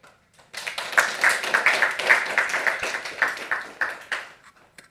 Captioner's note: audience applauding